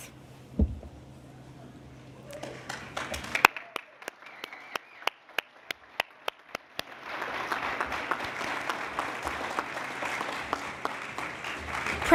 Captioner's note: applause